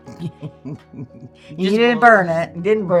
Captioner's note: laughing